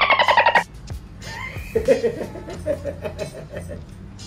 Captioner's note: laugh